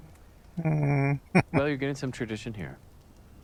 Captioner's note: chuckling